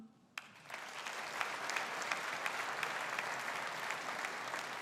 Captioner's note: audience applauding